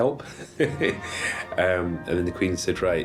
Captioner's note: laughing